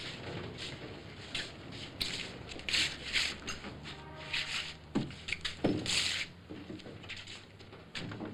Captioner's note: feet shuffling